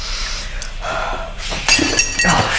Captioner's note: glass shatters